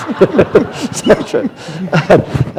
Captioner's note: laughter